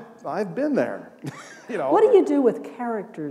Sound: laughter

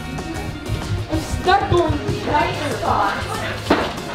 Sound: laughs loudly

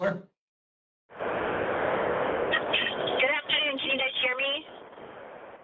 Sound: static

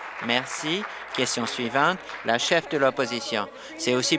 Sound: applause

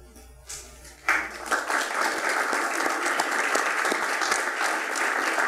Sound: attendees applauding

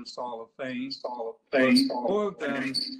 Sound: echoes

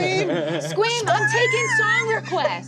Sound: squeems

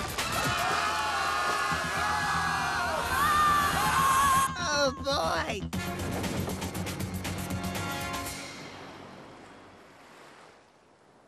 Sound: screaming

